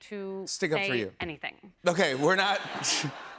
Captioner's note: laughter